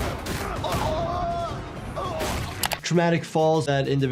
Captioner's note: person yells in agony